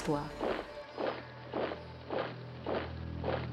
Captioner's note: boot sounds